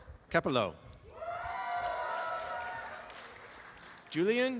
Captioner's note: applause and cheering